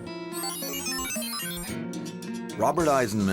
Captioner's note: electronics whirring